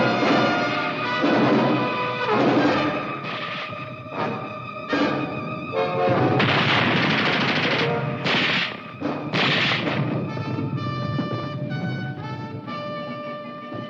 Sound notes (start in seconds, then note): 6.3 grenade exploding; 10.5 slow triumphant music